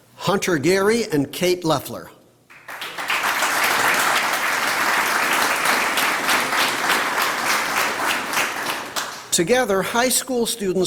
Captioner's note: applause